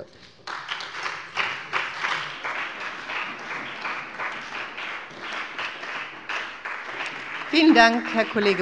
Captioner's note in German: Beifall bei dem BÜNDNIS 90/DIE GRÜNEN und der CDU